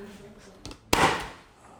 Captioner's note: stapling